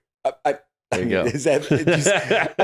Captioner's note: laughing